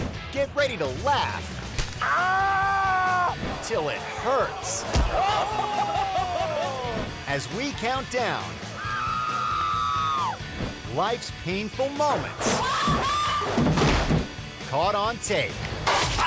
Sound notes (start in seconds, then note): 5.4 man laughing; 12.6 woman screaming